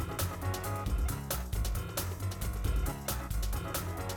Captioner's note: none